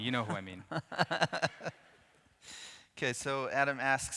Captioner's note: interviewer laughs